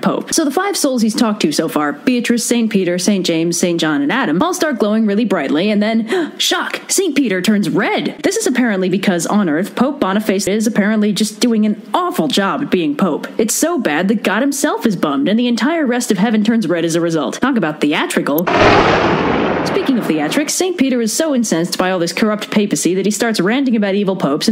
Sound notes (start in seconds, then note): 6.1 gasp; 18.4 thunder